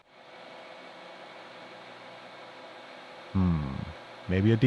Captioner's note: machine whirring